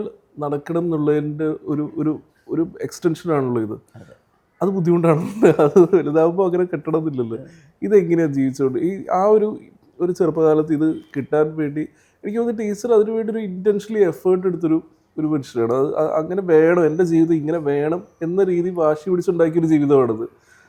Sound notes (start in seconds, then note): 4.7 laughs